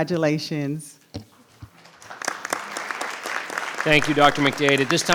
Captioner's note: group clapping